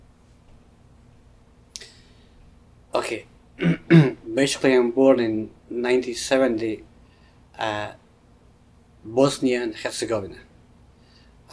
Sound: clears throat

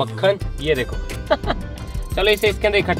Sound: chuckles

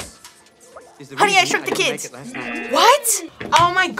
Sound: buzzer

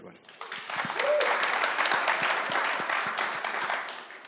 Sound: audience applauds

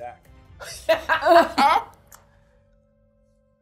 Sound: laughs

